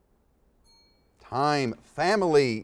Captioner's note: dings